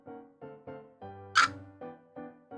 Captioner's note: hic